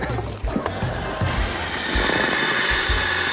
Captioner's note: laughter